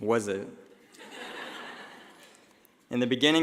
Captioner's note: laughing